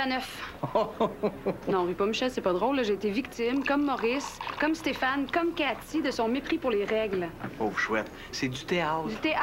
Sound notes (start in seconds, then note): 0.6 Il rigole